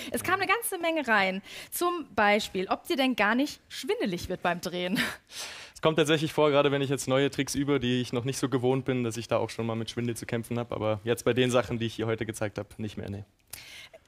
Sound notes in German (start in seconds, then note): none